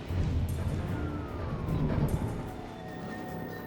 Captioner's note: siren